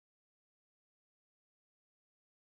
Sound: none

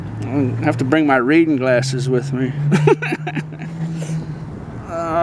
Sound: laughing

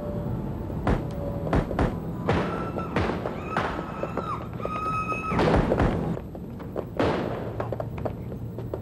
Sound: gunshots and screaming continue

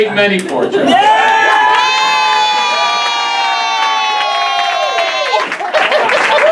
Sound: screams

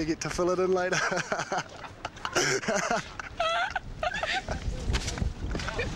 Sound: laughs

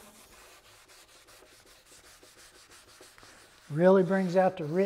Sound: rag wiping

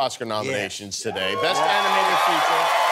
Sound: cheers and applause

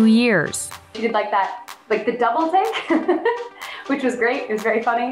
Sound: laughs

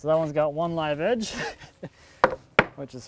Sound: laughs

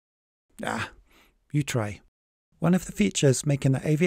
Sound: groans

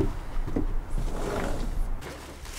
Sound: door opens

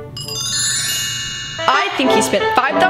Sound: bells chime

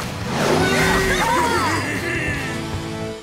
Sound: cheering

